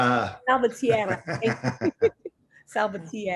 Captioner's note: laughs